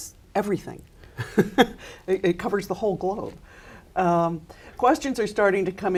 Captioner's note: chuckles